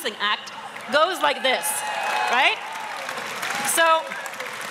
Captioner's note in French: Acclamations et applaudissements enthousiastes